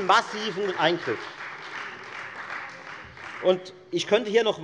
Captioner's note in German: Beifall Freie Demokraten